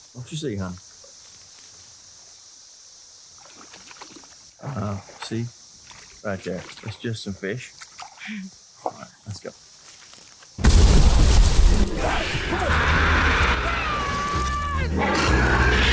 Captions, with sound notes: What you see, hon? [Water splashing] Ah, see? Right there. It's just some fish. Alright. Let's go. [Loud water explosion] [Loud roar] Run!